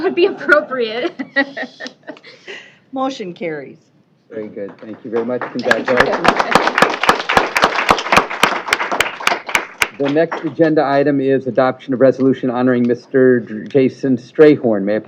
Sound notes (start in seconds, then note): 0.0 laughter; 7.3 applause